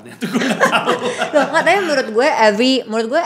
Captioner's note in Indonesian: ketawa